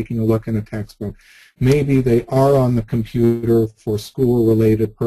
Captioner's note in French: none